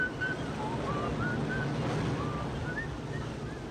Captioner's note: Harry whistles